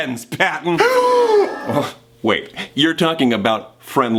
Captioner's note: gasps